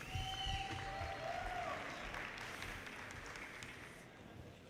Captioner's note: audience cheers and applause